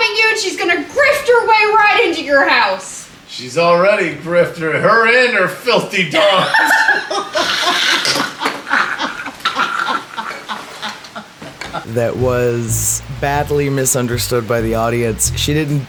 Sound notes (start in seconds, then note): 6.2 laughter